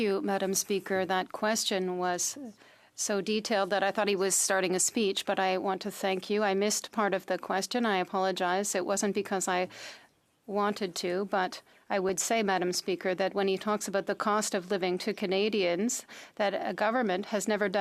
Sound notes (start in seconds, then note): 0.7 speaking in french